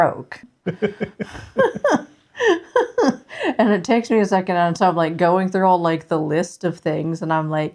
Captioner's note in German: Gelächter